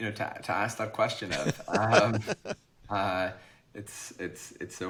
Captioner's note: laughs